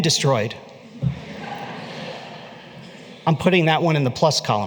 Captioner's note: laughter